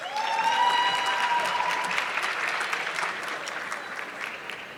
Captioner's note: audience clapping